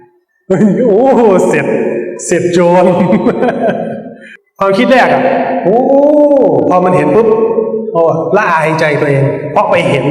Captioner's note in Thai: เสียงหัวเราะ